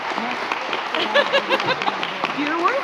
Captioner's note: laughs